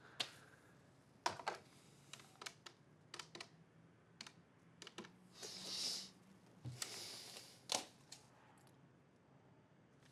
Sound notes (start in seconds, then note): 2.5 dial pad clicking